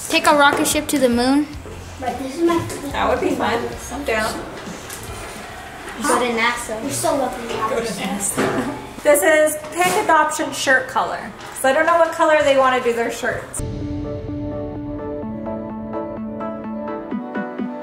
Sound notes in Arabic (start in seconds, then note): 7.4 يضحك; 13.6 موسيقى مبهجة